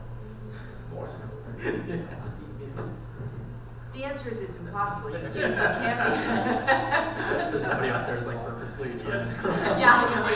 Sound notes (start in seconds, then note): 2.4 speaks quietly; 5.2 panel laughing